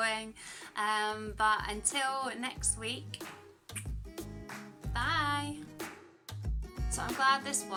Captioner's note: kiss